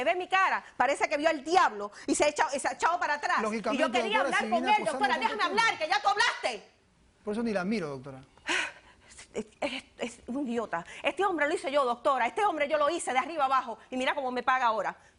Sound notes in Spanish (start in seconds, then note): 4.7 Hablan al unísono